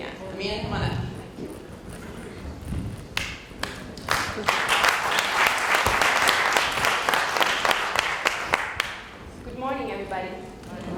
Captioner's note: applause